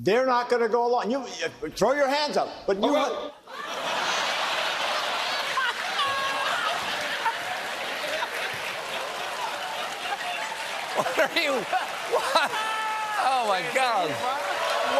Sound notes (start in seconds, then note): 6.7 laughter